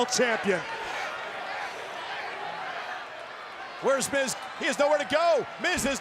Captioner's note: applause